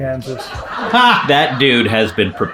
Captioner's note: laugh track plays